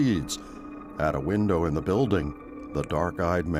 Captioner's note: wind whistling